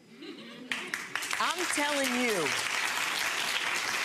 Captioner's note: audience applauding